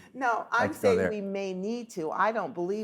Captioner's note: laughs